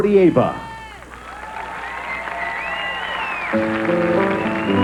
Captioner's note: audience applauding